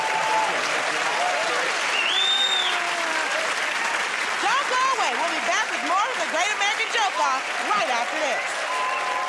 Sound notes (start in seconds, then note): 0.1 cheers and applause; 1.9 whistles